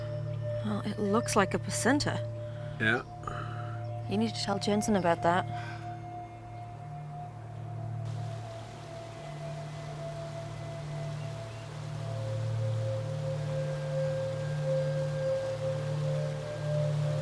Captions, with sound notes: - Well, it looks like a placenta. - Yeah. - You need to tell Jensen about that. (tense music) (water babbles)